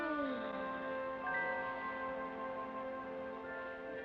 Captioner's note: soft moaning